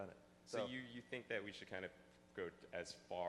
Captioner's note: voiceover